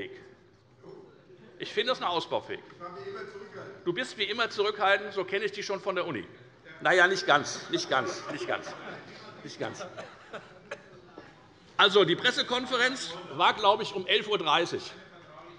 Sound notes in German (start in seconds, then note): 7.6 Heiterkeit und Zurufe